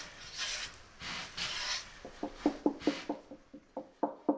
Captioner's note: gentle tapping; firmer tapping